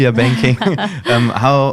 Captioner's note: laughs